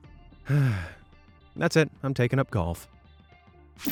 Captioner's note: sighs